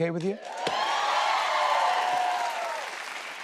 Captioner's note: cheers and applause